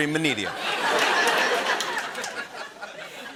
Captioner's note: laughter